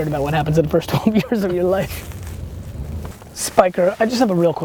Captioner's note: laughs